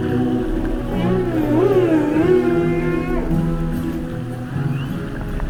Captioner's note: whale groaning